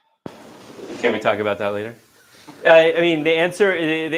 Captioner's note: sighs